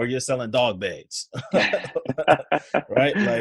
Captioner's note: laughs